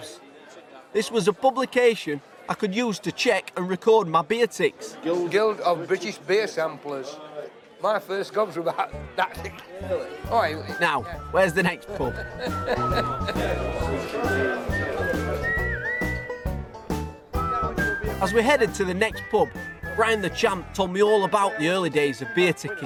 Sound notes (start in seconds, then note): 12.0 laughs; 12.1 playful music continues